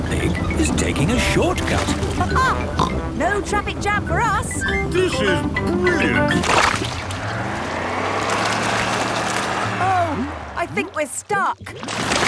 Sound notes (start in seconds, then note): 6.3 sloshing, tires whirring